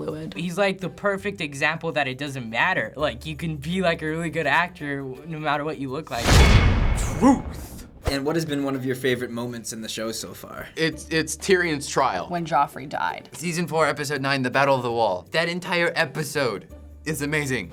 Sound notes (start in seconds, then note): 6.1 clang